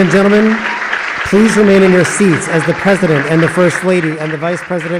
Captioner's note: applause